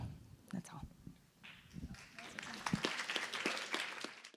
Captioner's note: applause